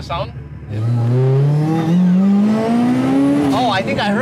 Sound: car engine revving

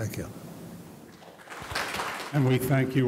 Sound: audience clapping

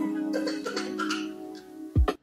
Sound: fake crying

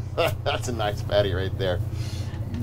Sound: chuckling

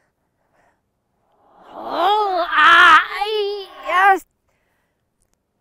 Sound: shouting

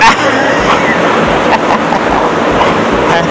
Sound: laughs

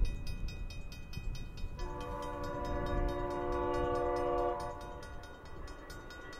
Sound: long, distant horn

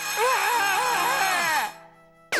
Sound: both screaming

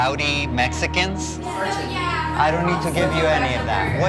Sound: overlapping chatter

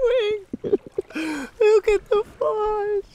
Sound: laughing

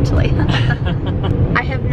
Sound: laughing

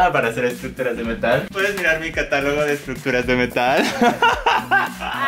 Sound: laughs

